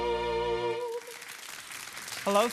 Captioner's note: applause